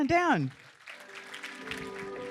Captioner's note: applause